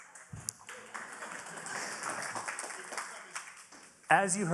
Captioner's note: audience clapping